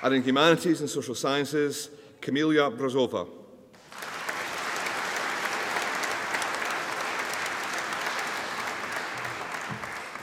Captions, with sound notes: in Humanities and Social Sciences Camellia Brozova (AUDIENCE APPLAUDING)